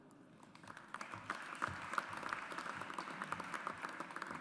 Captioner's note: audience applauds